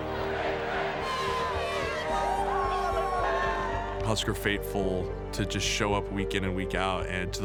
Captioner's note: fans cheering